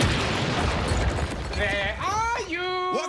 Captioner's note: loud crash